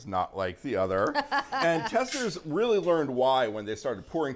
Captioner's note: laughs